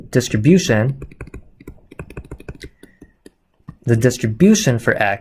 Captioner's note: typing